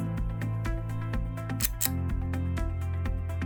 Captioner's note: click